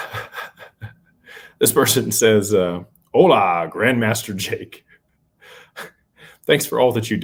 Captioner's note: laughter